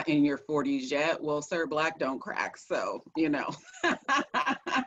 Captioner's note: laughs